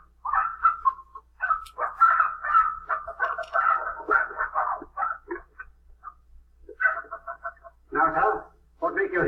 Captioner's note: squawking